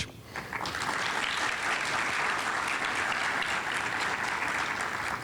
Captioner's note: audience applauding